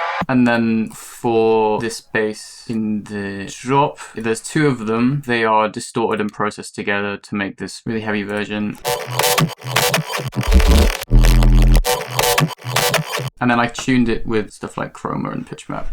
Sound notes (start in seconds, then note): 8.8 synthy, distorted sounds